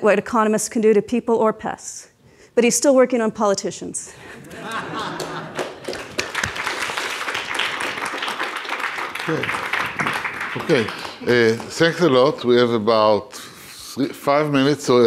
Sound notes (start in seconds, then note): 4.2 audience laughing; 4.5 audience applauds